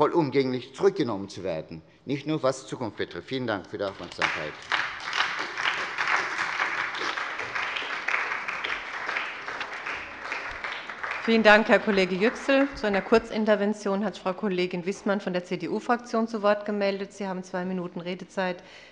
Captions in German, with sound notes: vollumfänglich zurückgenommen werden. - Vielen Dank für die Aufmerksamkeit. (Beifall bei der SPD) Vielen Dank, Herr Kollege Yüksel. - Zu einer Kurzintervention hat sich Frau Kollegin Wiesmann, CDU-Fraktion, gemeldet. Sie haben zwei Minuten Redezeit.